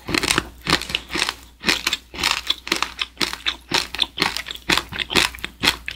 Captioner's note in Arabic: صوت مقرمش آخر فقط مع الرشات